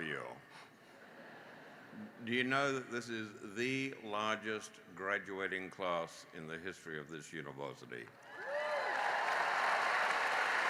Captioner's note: laughter